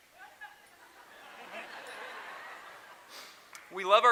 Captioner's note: laughter